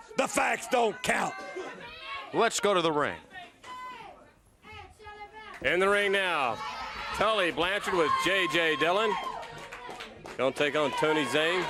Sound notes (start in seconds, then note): 4.1 crowd chatter; 11.5 crowd cheering